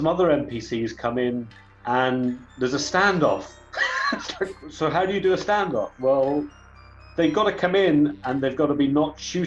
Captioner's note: laughs